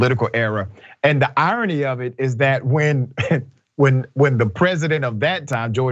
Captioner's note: laugh